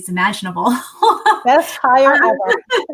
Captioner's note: laughter